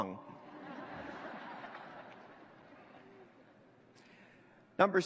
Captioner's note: laughter